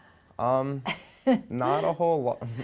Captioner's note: soft chuckle